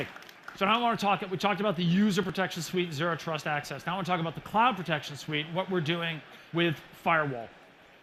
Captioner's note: applause